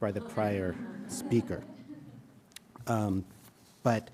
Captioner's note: audience chuckling